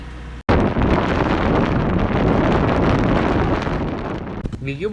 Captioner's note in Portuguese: vento